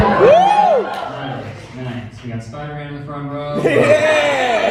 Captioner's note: crowd cheering; audience laughs